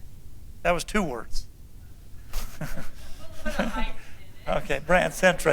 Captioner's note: laughter